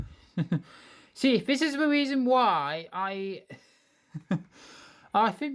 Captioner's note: chuckle